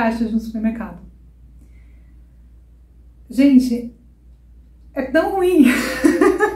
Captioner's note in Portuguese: Risos